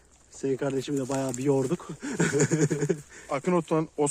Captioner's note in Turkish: kahkaha